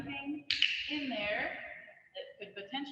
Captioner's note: clicking